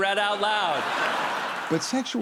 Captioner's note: laughter